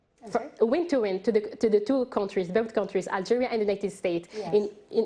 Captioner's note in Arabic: تتحدث الإنجليزية